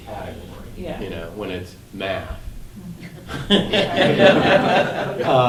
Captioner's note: class laughing